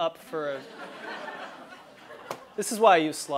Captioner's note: laugh